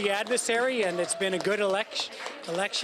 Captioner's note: cheering